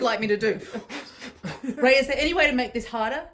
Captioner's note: exhaling quickly